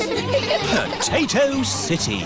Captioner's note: all giggling